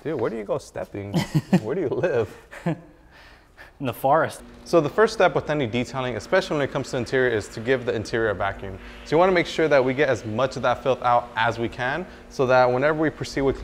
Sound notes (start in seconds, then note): 1.0 laughs